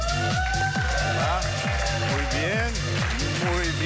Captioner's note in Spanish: Gritos